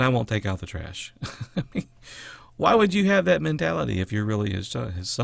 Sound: laughter

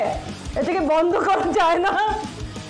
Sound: laughs

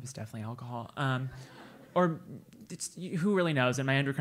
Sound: laugh

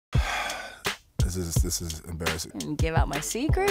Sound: sighs

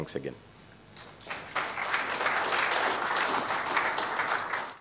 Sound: applause

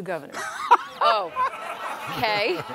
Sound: laughter

